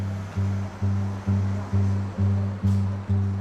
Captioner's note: traffic hums, door chimes